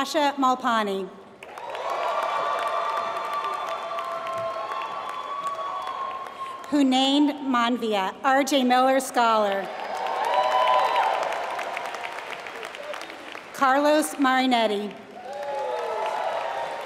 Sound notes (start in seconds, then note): 4.0 applause; 9.5 applause